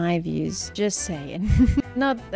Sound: laughs

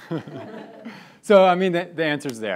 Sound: laughing

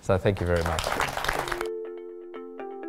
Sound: audience applause

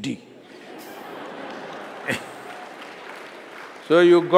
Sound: laughter/Applause

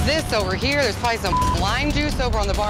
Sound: beep

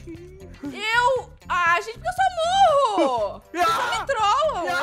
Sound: screaming on the background

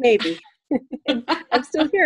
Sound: laughter

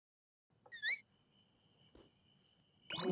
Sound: frustrated

